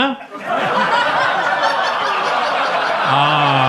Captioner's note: audience laughs